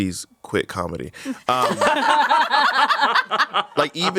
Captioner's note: everyone laughs